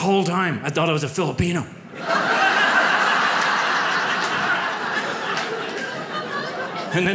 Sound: audience laughs

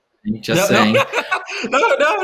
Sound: laughs out loud

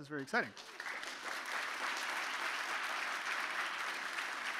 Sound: audience applauding

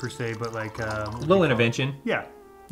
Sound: wine trickling

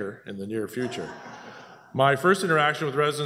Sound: laughter

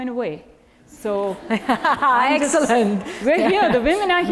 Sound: laugh

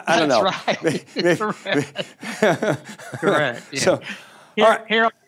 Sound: both laughing

